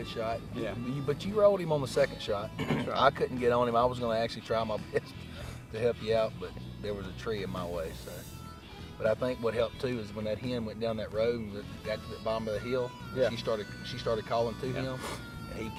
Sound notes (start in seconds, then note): 5.2 laughs